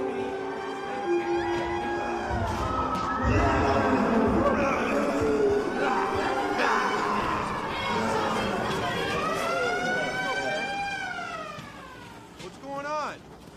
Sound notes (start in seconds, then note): 0.1 siren continues; 3.1 groaning